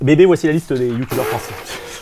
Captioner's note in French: Pouffement